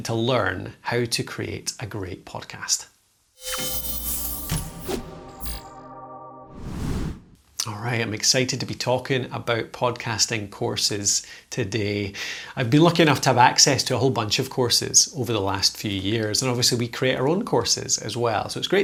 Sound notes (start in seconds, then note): 3.4 whooshing; 3.5 upbeat music